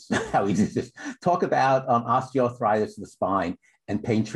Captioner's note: laughter